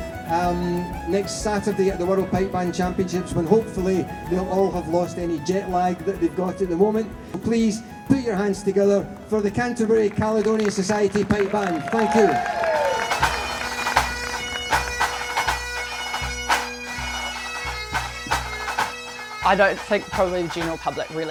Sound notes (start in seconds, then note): 9.9 cheering, applause; 14.1 pipes and drums play